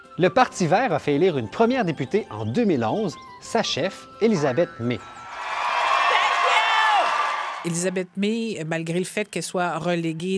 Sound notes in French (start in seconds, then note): 5.3 applaudissements